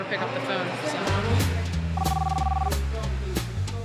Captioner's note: line ringing